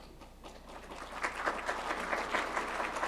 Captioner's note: applause